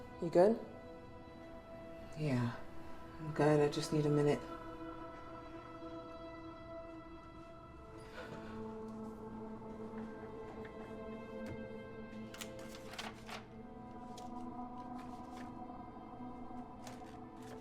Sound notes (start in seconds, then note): 5.4 ominous music; 12.2 papers rustling